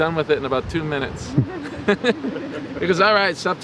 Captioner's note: laughing